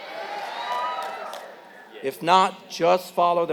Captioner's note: applause